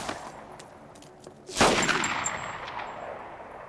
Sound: gunshot

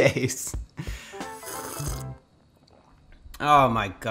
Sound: sipping

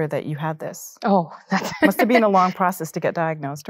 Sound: laughs

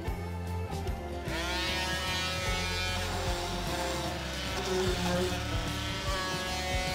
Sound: saw buzzing

